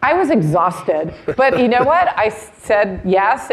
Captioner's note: laughing